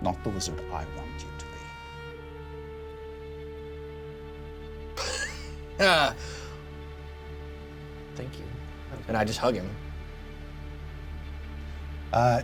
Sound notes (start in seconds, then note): 5.0 laughs